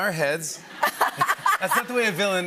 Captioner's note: light laughter